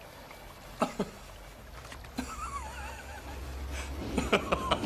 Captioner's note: laughing